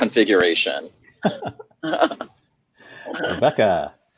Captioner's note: laughing